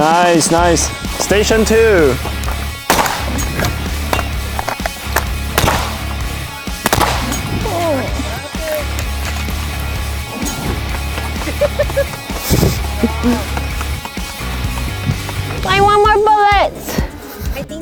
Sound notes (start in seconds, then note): 2.1 gun pops; 4.4 rock music; 5.9 gun pops; 11.9 group laughing